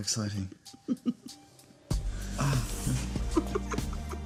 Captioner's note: Lucia laughs